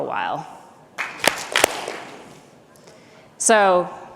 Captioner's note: clap, clap